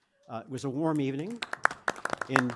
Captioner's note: applause